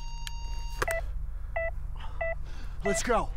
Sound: heart monitor beeps return

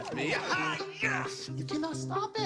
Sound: excited yelling

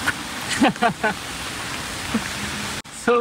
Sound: laughs

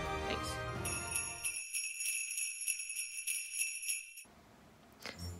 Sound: sleigh bells

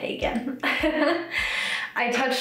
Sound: laughs

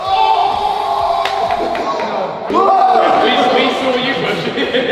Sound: group cheering

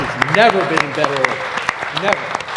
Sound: applause

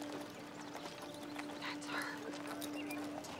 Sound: whispering

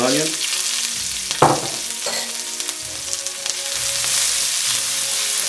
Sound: oil sizzling

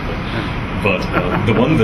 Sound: laughs

